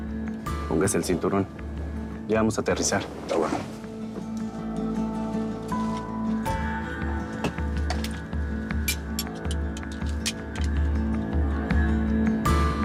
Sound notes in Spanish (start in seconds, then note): 8.8 Ruido al ponerse el cinturón